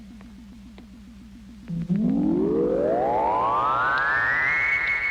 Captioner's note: radar pulsing